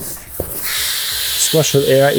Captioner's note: air blowing out of mat